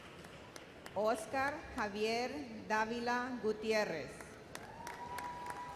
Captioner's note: audience applauds